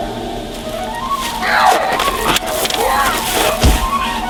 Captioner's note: growling